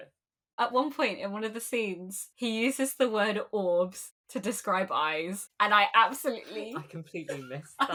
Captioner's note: laughing